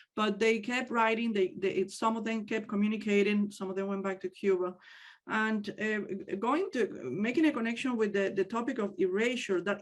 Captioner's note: none